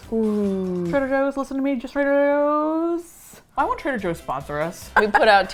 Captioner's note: laughs